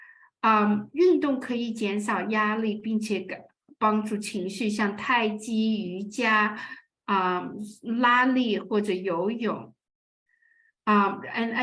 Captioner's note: speaking chinese